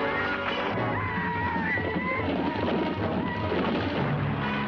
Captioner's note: men shouting